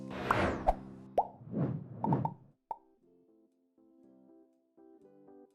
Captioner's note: background bubbles popping